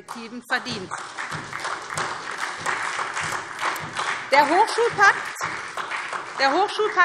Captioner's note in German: Beifall SPD und vereinzelt DIE LINKE